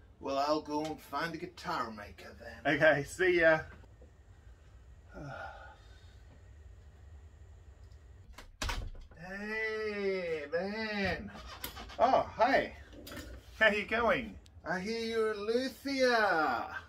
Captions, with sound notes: Well I'll go find a guitar maker then. - Okay, see ya. (sighs) (door opens) - Hey man. - Oh, Hey, how you going? - I hear you are luthier.